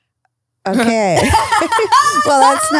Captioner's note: laugh